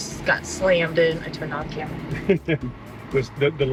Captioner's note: laughs